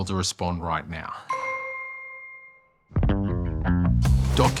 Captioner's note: sounds of a phone notification can be heard